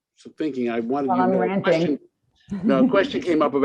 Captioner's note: chuckles